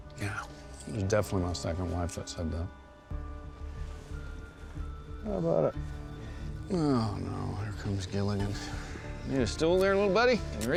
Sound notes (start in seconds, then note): 5.1 scottish accent